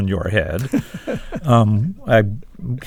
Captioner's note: laughter